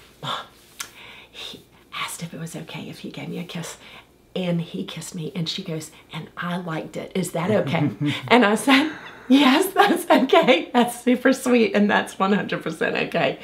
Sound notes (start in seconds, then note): 7.4 laughs; 10.9 laughs